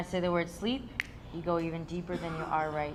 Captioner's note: fingers snapping